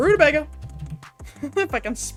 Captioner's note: giggles